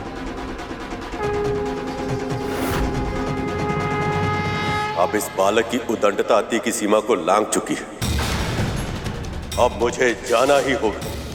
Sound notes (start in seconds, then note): 1.1 conch blows